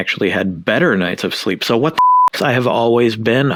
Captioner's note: beep